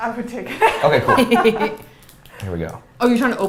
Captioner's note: both laughs